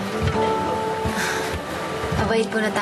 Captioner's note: sighs